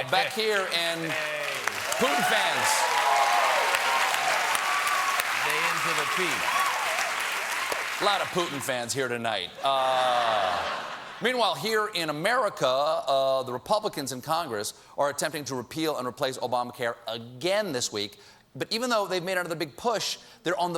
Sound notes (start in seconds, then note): 5.6 applause; 9.9 laughter